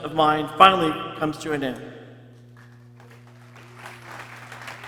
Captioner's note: people cheering